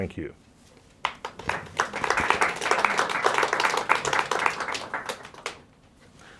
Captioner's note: applause